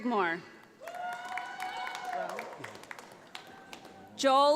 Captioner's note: audience applauds